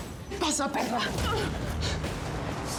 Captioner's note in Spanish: golpes